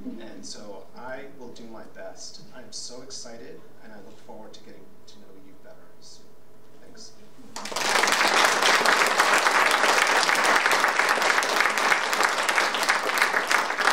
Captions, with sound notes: And so I will do my best. I'm so excited and I look forward to getting to know you better soon. Thanks. (audience applauding)